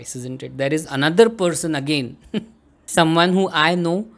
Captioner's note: chuckles